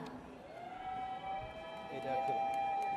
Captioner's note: audience cheers